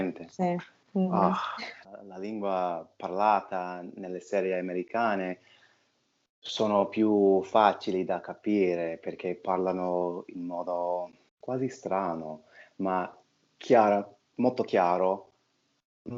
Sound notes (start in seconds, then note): 4.1 dubbed in Italian